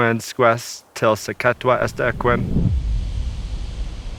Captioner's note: speaks Indigenous language; wind blows